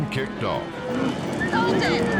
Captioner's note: cows mooing